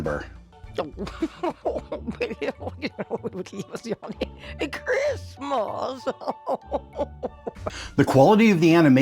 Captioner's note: more grandma chatter